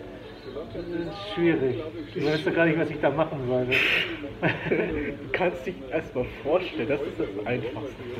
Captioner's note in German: Alle lachen